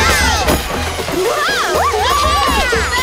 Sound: cheering

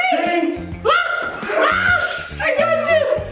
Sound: screaming

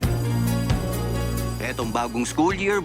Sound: school bell rings

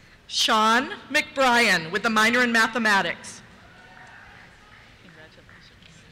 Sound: cheers

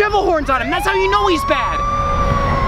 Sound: police siren

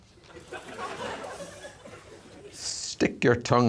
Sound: audience laughing

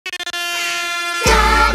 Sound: air horns blaring

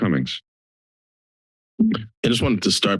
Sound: silence

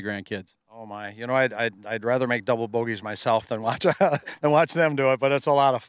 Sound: laughing

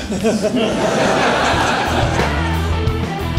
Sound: laughs

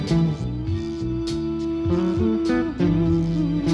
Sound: hums

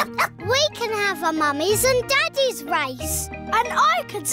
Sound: barks

